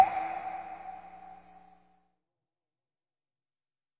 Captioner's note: bubble pops